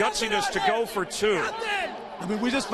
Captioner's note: fans shouting